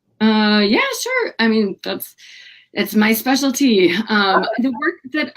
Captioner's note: laughing